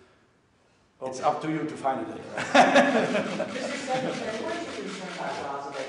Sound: laughter

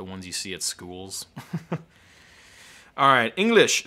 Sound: laughing

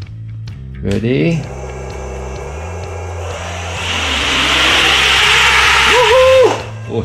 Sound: engine sound

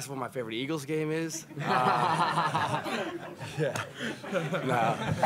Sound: laughter

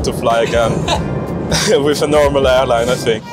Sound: laughing

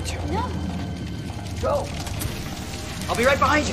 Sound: fire crackling

